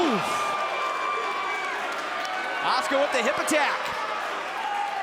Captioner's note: crowd chatter